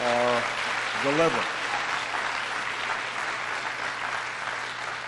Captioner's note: applause